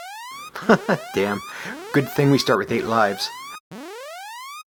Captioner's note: chuckles